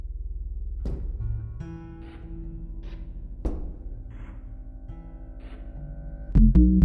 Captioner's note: sound effects of walking through the room; muffled bass noises